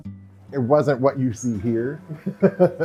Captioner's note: laughs